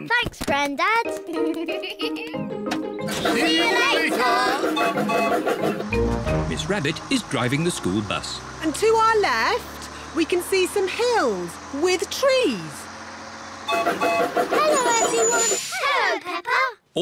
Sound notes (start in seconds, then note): 1.2 laughs; 4.7 toots whistle